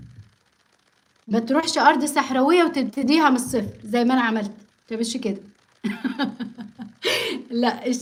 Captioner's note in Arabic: ضحك